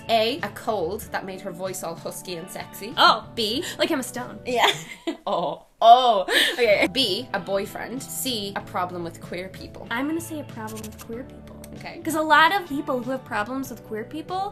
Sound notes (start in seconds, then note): 6.2 laughing